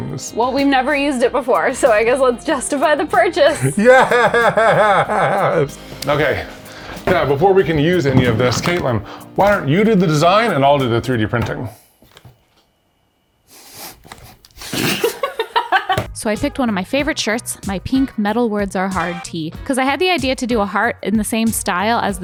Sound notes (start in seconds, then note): 3.3 laughs; 14.7 laughs